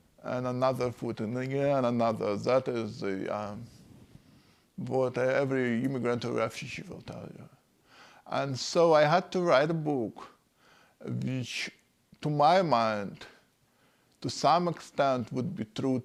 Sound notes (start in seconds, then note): none